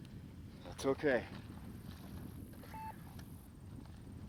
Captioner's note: beeping